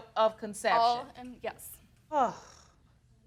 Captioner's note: sighs